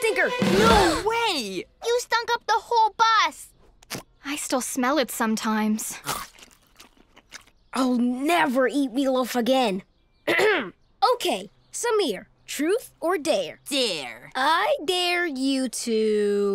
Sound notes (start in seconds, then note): 0.1 gasping; 10.2 clears throat